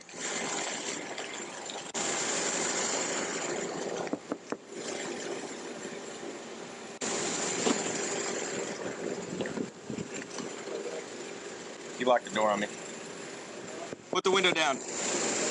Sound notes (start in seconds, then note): 0.2 fuzzy audio feedback; 4.1 tapping on window; 14.0 tapping on window